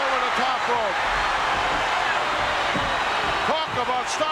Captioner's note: audience cheering